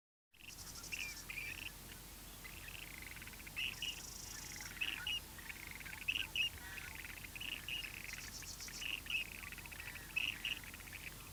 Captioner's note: geese chirping and honking